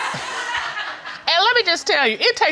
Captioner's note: audience laughing